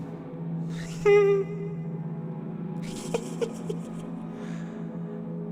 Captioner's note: laugh